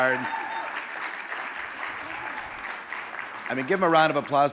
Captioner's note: audience applauding and cheering